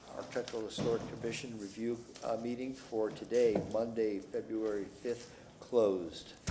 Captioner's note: gavel sounding